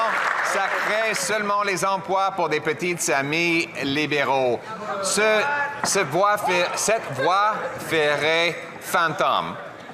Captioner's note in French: applaudissements